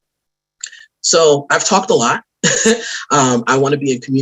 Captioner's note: laughs